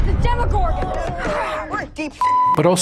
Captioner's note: kids groaning